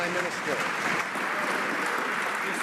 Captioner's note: some Applause